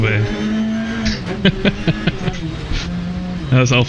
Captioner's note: laughs